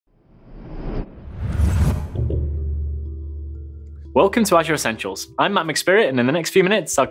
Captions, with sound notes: (dramatic whooshing) - Welcome to Azure Essentials. I'm Matt McSpirit, and in the next few minutes,